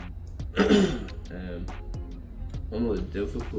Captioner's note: clears throat